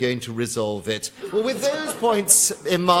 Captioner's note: laughter